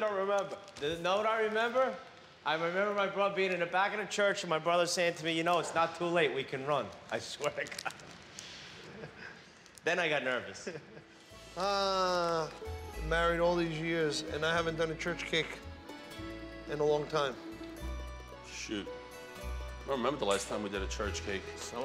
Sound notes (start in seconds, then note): 10.6 chuckles